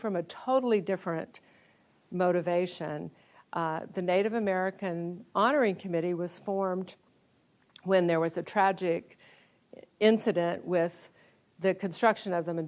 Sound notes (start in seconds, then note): none